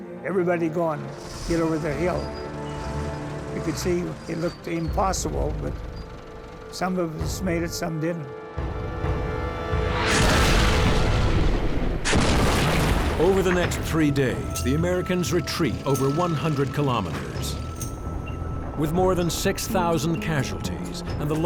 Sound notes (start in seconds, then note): 2.3 half-track engines whirring; 10.0 half-track exploding; 12.1 shell exploding